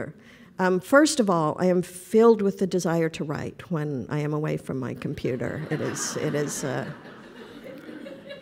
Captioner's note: laughter